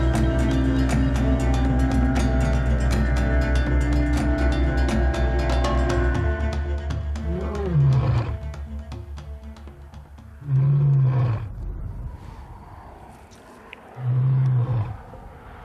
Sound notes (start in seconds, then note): 7.6 lion growling